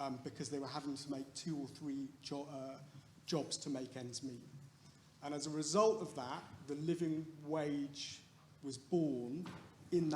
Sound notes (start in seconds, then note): none